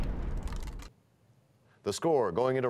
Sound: crashing sound

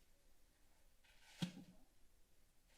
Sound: thud sound

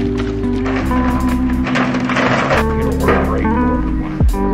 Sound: paper rustling

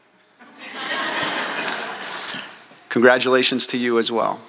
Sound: laughter

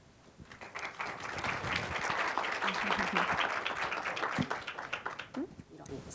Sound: applause

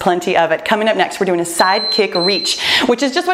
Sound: timer beeps

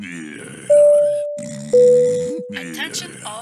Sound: Wario snoring; airplane beep sound

